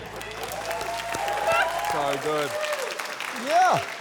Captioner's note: cheering, applause